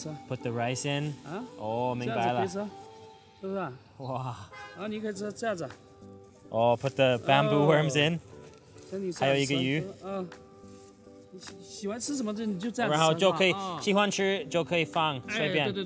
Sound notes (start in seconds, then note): 1.6 speaking foreign language